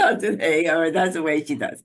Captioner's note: laughter